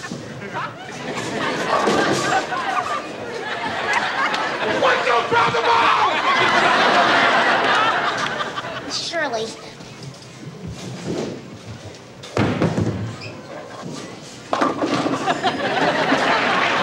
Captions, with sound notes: (audience laughing) - Would you throw the ball? (audience laughing) - Surely. (pins crashing) (audience laughing)